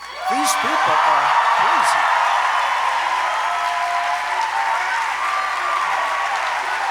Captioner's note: applause